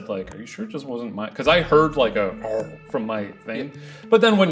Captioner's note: imitates growling